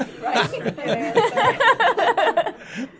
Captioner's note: laughter